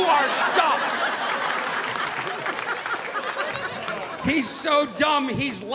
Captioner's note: audience laughing